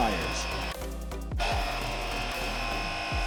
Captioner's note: machine noise